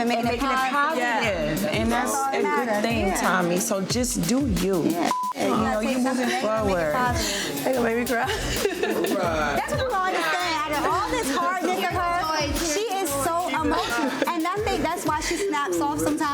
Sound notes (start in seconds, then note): 5.0 beep; 5.8 overlapping chattering; 9.7 overlapping chattering